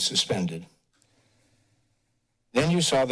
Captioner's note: pause